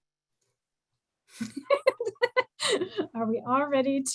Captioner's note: laughter